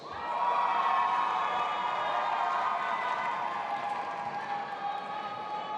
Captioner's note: audience applauding and cheering